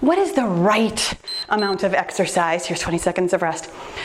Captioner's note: timer beeps